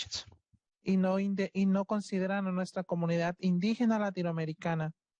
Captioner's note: speaking Spanish